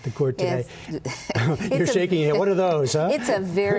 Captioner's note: laughter